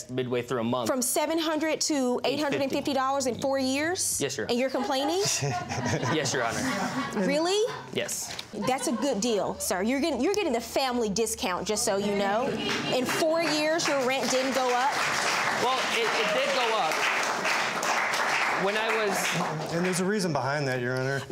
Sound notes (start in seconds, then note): 4.7 laughter; 15.0 applause